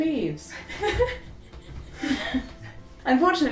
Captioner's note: laughs